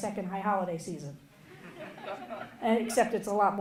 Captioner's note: audience laughing